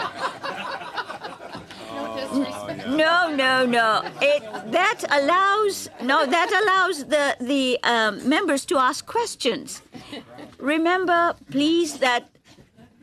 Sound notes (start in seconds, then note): 3.7 laughter